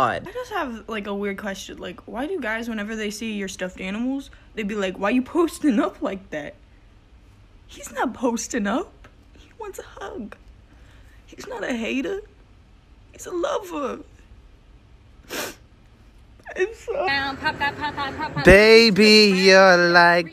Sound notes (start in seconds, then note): 6.5 tearfully; 15.2 sniffs, bursts into sobs